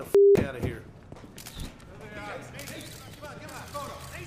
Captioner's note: cameras clicking